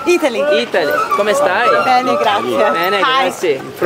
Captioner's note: speaking Italian